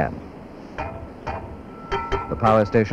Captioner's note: sound of tools